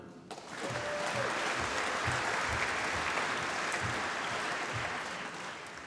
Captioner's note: applause